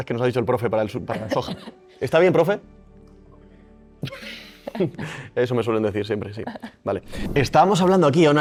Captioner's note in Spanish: risas